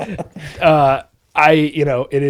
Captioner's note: both laughing